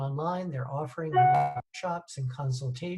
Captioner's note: notification drowns out voice